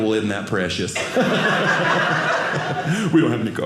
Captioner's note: audience laughing